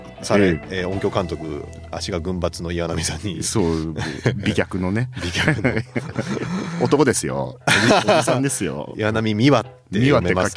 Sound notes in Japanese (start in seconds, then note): 6.2 咳払い; 6.3 笑い